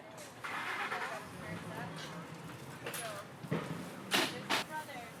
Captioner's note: car engine starting